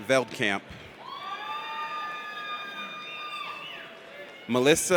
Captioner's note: audience cheers